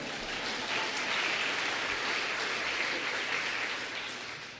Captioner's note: applause